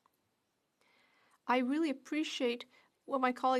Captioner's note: speaking French